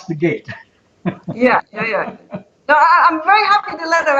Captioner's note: chuckling